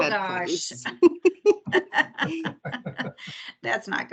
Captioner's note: members laughing